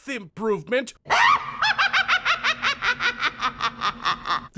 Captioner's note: laughter